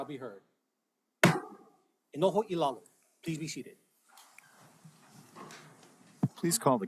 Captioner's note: gavel bangs once